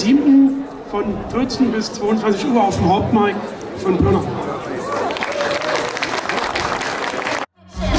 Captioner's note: applause